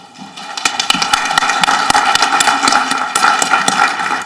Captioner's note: audience clapping